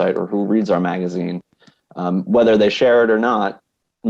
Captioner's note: none